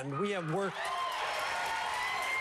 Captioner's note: applause